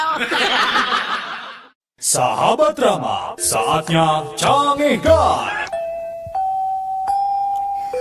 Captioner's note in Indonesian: tertawa